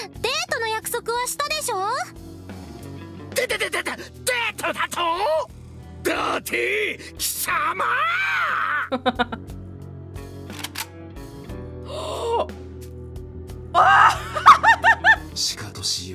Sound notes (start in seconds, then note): 8.9 chuckles; 11.6 gasps; 13.8 laughs